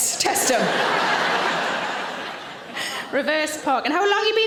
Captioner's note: audience laughing